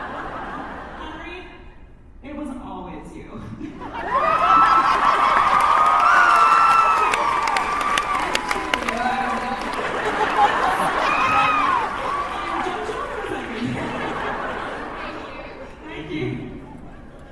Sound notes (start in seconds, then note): 3.9 audience cheers; 8.4 in Henry's voice